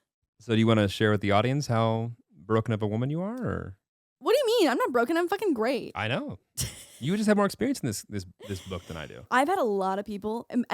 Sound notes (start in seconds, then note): 8.4 laughing